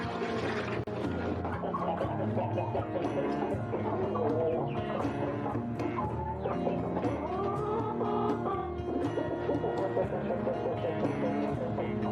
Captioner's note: water pouring; chickens clucking